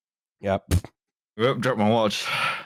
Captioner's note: sound of something falling quickly